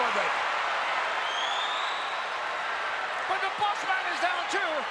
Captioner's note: crowd chattering